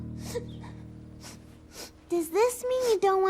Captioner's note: sniffling